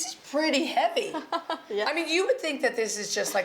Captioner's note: laughs